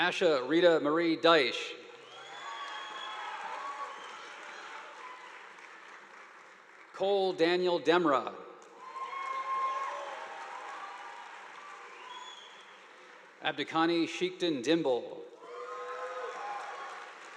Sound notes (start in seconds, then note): 2.0 audience applauding; 8.8 audience applauding